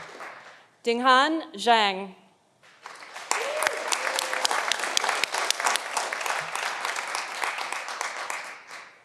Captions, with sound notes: Dinghan Zhang. (audience applauding)